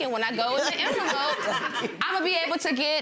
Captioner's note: gallery laughs